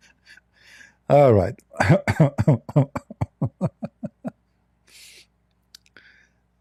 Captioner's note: Ketawa